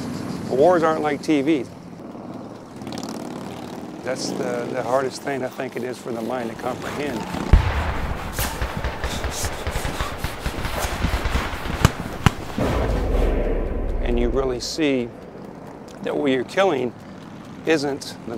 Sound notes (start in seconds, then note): 6.4 zooming sounds; 8.4 heavy breathing; 12.7 guns shots